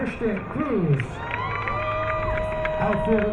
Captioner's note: crowd cheering